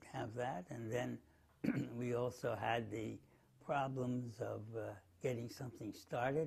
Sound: cough

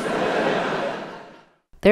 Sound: laughter

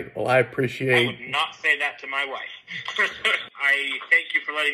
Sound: laughs

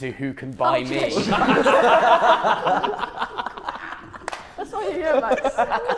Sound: Sidemen laughing

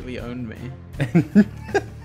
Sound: laughing

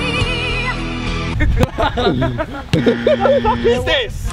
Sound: laughter

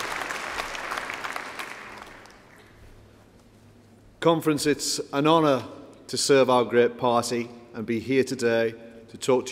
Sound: applause

